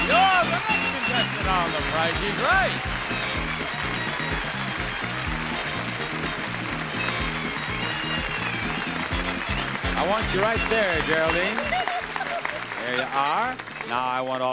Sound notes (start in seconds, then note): 2.7 audience applauding; 2.7 bright happy music; 6.8 audience applauding; 6.8 bright happy music